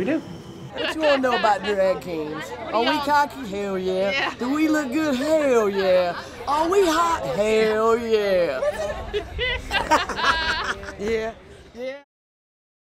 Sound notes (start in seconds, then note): 0.9 laughter in background; 8.2 laughing